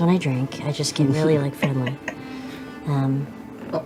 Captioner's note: laughs